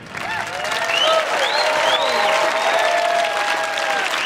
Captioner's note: audience applauding